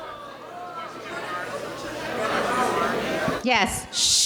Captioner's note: audience clamoring